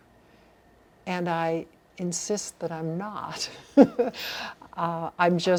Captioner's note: laughs